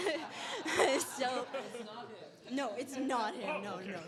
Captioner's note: laughter